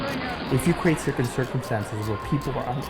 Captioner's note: voiceover